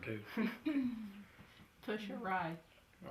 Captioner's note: laughs